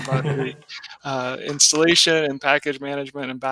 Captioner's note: laughing